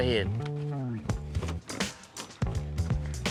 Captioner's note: opens door; grill opens, steak sizzles